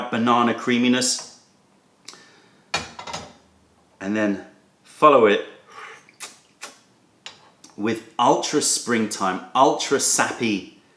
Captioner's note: sips tea